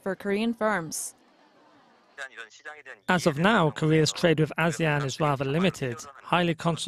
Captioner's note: Korean